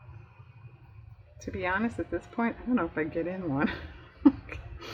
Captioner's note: laughs